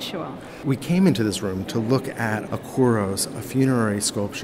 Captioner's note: voiceover